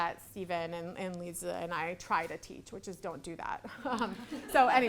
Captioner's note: laughs; audience laughing